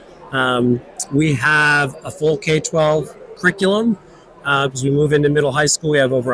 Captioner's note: crowd chattering